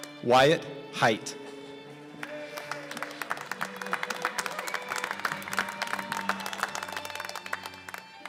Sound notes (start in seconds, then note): 2.2 applause